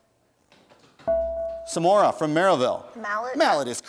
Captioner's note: bell rings